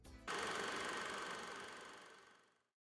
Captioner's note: camera whirs